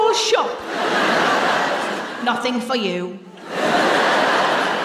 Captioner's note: laughter